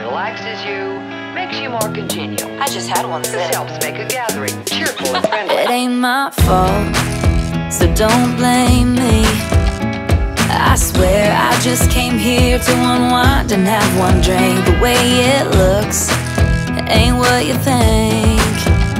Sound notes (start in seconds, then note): 3.6 voiceover